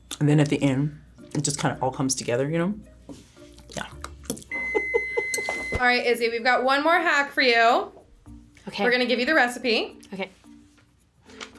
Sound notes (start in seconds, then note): 4.3 laughs; 4.5 microwave beeps